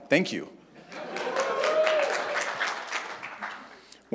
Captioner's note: cheers, applause